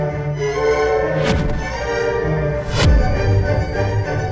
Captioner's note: music rising triumphantly; airy whoosh; cracking whoosh